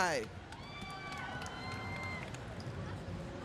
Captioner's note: crowd cheering